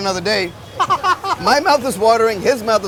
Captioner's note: laughs